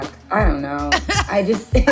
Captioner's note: laughs